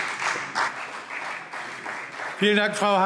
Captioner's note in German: Beifall CDU und BÜNDNIS 90/DIE GRÜNEN